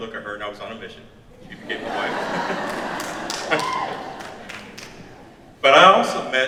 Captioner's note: audience laughs